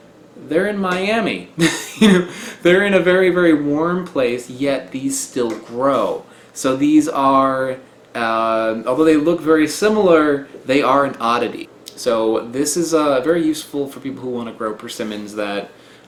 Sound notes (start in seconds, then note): 1.6 chuckles